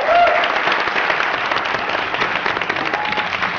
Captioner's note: applause and whistles